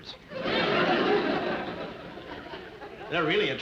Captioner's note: audience laughing